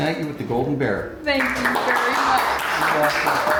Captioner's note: crew applauding